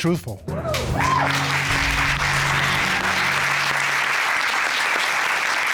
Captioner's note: cheers and applause